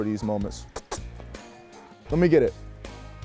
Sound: kissing noises

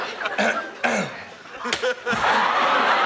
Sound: clears throat; audience laughs

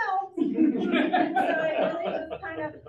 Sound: audience laughs

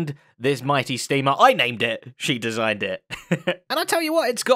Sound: chuckles

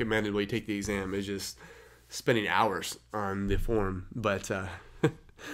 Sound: chuckles

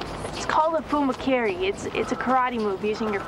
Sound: speaking foreign language

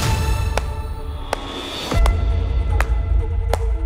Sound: loud clapping

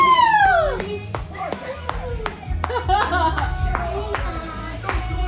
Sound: applauding

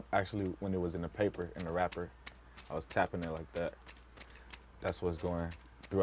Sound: taps

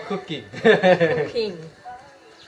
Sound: laughter

